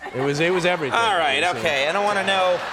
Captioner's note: audience laughs and claps